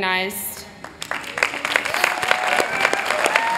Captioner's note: applause